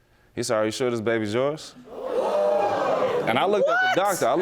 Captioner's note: audience gasping